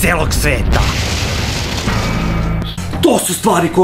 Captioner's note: explosion